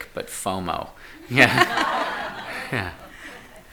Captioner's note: all laughing